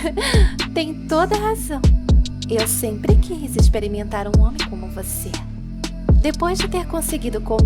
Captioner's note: laughs